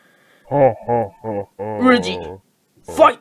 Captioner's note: laughing sound effect